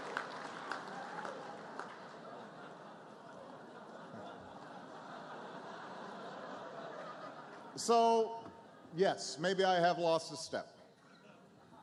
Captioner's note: laughter, applause